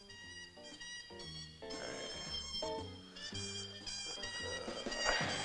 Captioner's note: resonant music; groaning